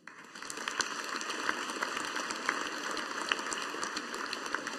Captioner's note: audience applauding